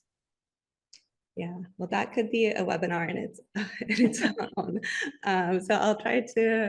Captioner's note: chuckles